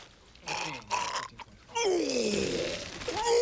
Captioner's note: gagging, retching